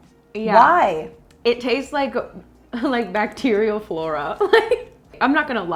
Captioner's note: laughs